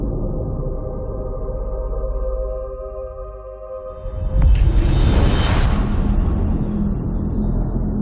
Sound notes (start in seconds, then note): 0.1 dramatic music playing; 4.0 dramatic sound